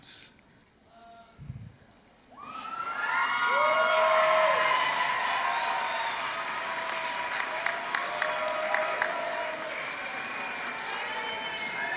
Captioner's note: applause